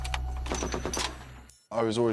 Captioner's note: gun fires